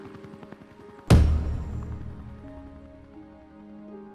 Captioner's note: stamp thuds